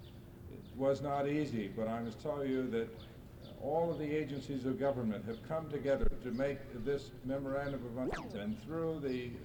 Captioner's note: camera noise